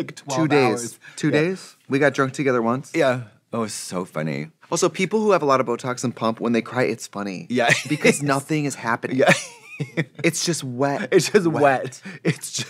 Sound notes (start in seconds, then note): 7.6 laughing